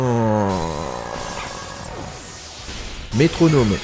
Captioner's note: long sigh